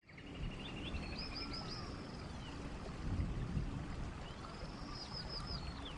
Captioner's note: tranquil nature sounds